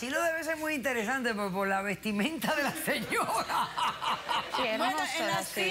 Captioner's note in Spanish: risas